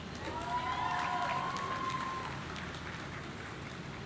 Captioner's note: audience cheering